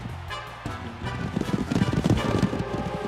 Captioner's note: thudding hooves